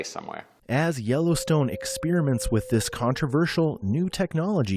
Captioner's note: voice-over